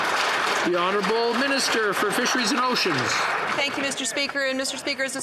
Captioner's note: some Applause